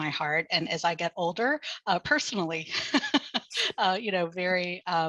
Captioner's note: laughing